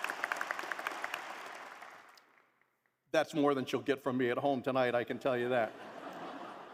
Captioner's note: applause